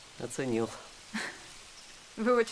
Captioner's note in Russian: усмешка